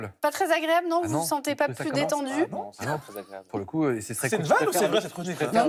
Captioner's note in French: rires